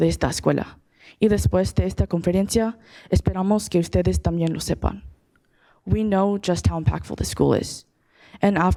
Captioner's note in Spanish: hablando español